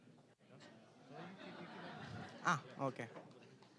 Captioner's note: audience chuckling